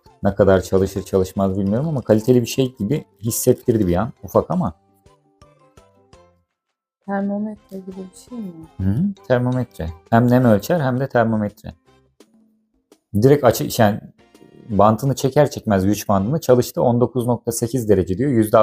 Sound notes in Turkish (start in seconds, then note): 4.3 boğazını temizler